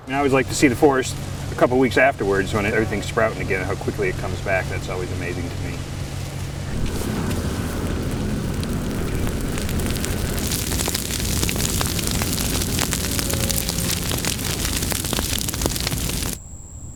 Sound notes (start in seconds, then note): 6.7 sound of footsteps on dry vegetation and crackling flames; 10.9 sound of crackling flames; 16.7 sound of insects droning